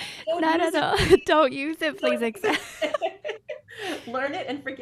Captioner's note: both laugh